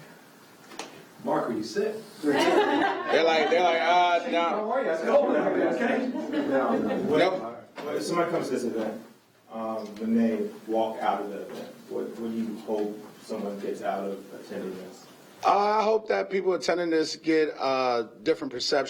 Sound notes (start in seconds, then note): 5.3 laughter